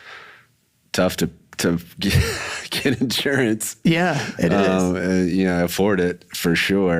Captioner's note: chuckles